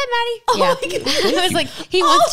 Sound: laugh

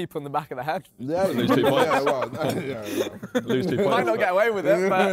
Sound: men laughing

